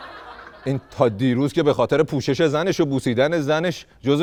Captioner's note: laughter